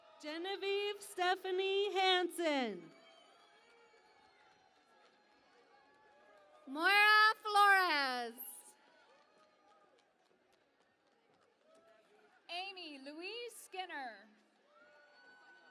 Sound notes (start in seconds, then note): 0.0 cheering and Applause; 3.5 cheering and Applause; 9.5 cheering and Applause; 15.5 cheering and Applause